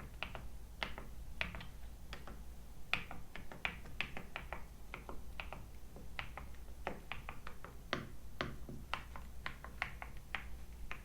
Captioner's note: TH80 V2 typing sounds